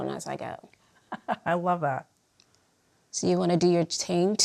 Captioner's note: chuckling